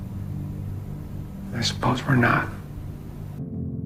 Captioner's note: voiceover